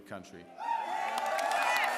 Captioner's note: applause